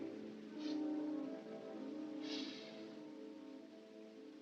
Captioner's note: sniffing